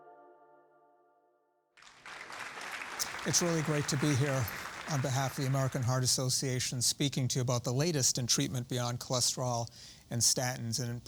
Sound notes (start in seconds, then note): 1.8 audience clapping